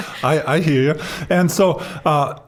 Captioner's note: chuckling